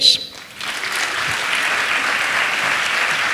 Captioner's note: applause